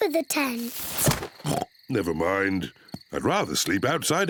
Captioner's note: oinks